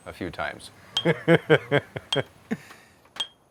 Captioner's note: laughs